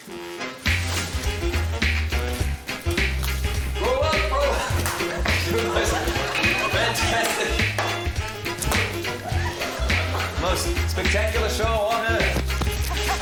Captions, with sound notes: (UPBEAT MUSIC) Roll up, roll up... (LAUGHS) for the most fantastic... most spectacular show on Earth.